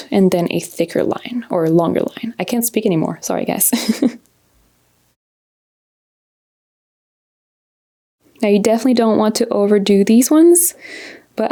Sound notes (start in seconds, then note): 3.8 laughs